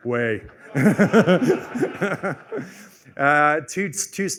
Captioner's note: laughter